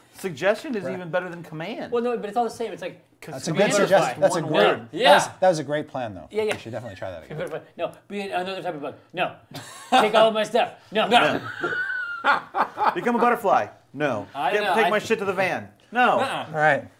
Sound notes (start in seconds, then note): 11.1 laughing